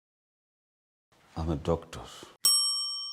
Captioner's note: bell sound